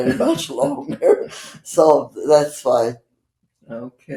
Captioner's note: laughing